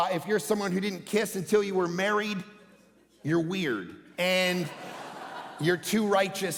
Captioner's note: congregation laughing